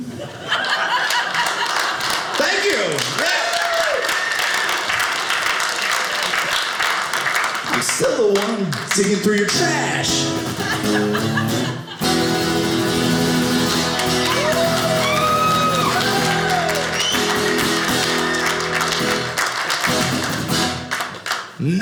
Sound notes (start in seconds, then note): 0.0 audience laughing; 3.6 audience cheering; 9.5 guitar playing